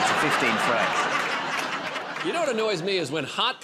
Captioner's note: laughter